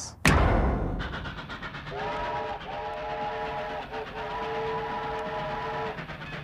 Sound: loud short bang; train chugging down track and blowing its whistle

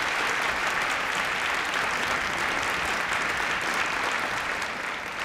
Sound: applause

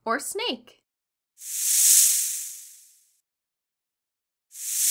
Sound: snake hissing

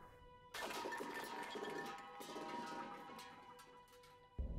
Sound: metal clatters

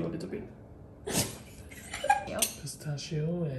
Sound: laughing

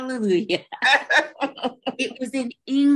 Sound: laughs

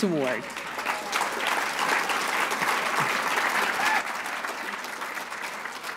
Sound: applause

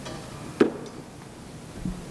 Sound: footsteps

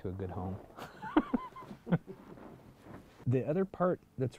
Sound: laughs

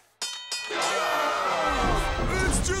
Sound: dinging; cheering

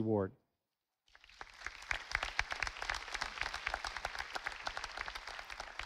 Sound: audience applauding

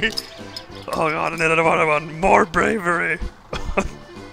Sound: laughs; laughs

